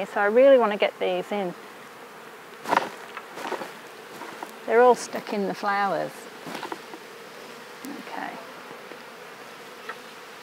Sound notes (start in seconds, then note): 3.0 bees clatter